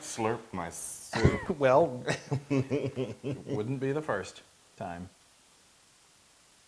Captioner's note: laugh